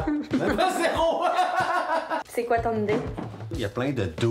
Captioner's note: laughs